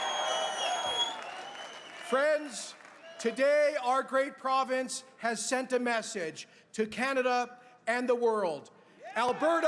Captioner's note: cheers and applause